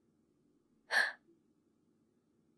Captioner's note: gasp